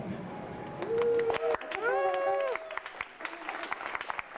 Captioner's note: cheering